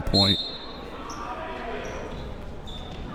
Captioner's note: whistle